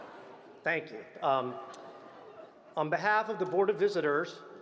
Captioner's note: laughter